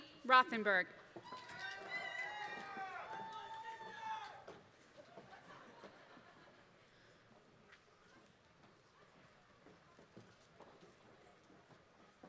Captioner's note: applause